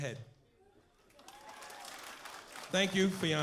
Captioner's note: applause